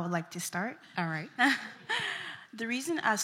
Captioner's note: chuckles